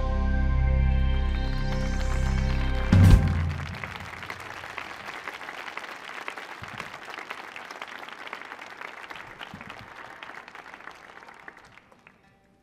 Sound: applause

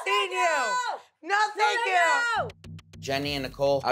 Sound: Snooki shouting

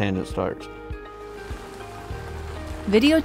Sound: car passing

